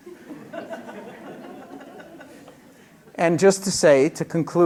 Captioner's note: laughter